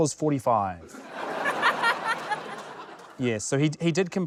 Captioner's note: laughter